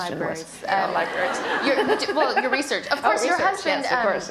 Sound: laughter

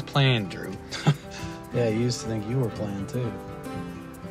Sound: laughs

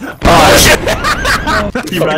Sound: belly laugh

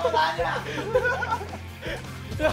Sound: haha

